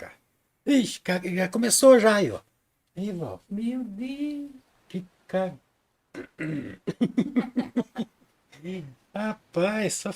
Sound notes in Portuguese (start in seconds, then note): 6.1 tosse; 6.1 limpando a garganta; 6.8 risadas